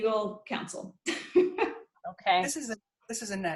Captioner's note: laughs